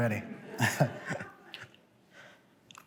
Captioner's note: laughter